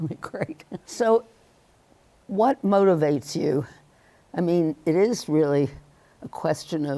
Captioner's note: chuckles